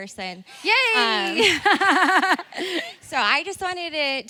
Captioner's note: laughs